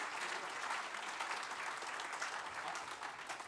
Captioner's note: applause